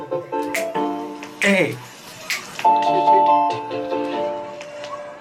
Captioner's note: upbeat music; snaps fingers